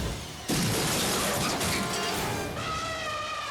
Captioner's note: elephant smashes; elephant trumpets